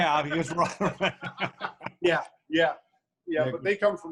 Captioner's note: laughing loudly